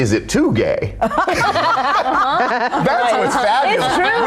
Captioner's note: laughing